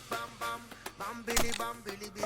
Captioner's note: wood snap